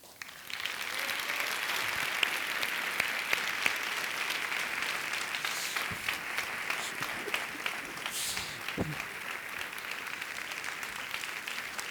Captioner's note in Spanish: Aplausos